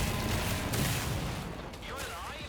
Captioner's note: explosion